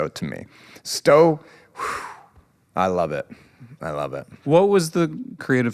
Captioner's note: exhales